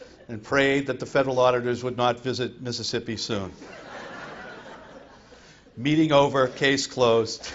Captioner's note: laughter